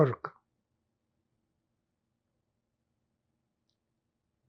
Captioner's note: pauses 6 seconds